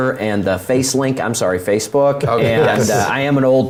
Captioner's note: laugh